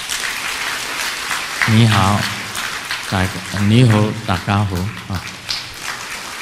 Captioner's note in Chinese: 廣東話